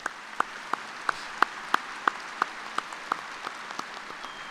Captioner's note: applause